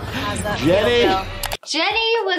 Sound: laughing

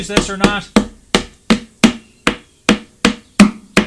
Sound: hammer pounding

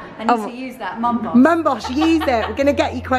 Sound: laughs

